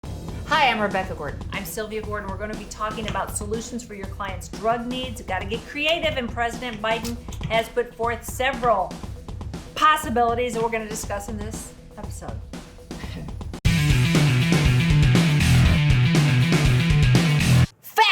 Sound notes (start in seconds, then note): 12.9 laughs; 13.7 lively guitar music